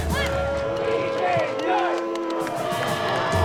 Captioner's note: jeers